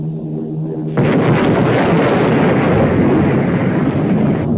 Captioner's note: explosion booming